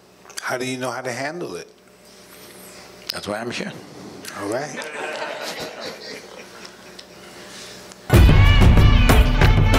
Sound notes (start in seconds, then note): 4.8 laughter